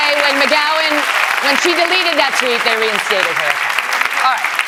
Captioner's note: applause